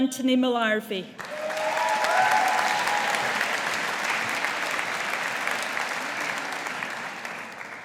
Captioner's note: audience applauding